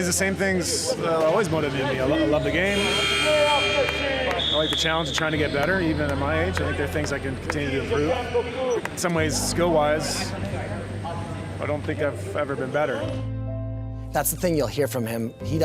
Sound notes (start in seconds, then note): 2.1 buzzer sounding